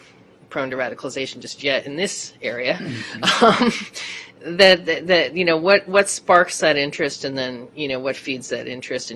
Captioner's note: laughter